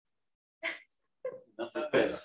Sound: laughter

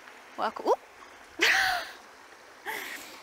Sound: laughs

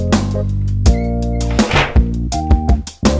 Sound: door slams

